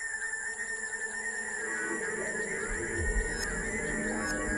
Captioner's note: tones squealing